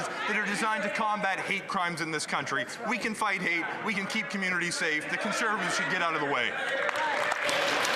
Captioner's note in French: voix de l'interprète